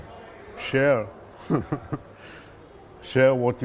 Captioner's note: laughing